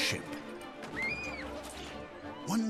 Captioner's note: shrieking